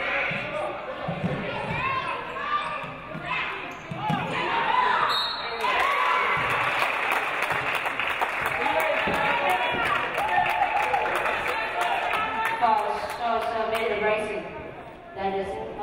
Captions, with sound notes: (referee blows whistle) (audience cheering) Foul Sharks, Amanda Brisson.